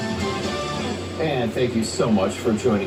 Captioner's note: on TV